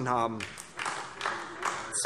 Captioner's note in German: Beifall DIE LINKE und vereinzelt SPD